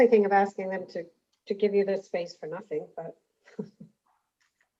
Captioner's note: laughs